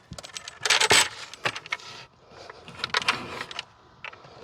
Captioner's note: door rattling